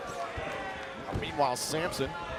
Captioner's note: crowd cheering